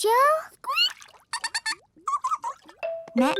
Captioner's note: both fish laughing